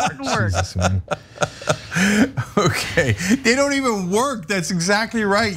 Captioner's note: laugh